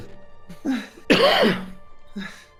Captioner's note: coughs